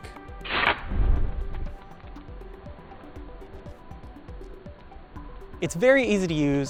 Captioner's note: soft music; fire starter striking